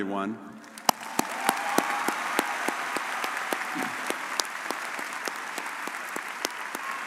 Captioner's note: audience cheering and applauding